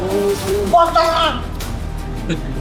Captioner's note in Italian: Urlo